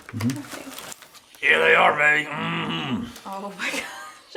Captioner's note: redneck voice